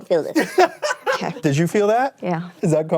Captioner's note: laughs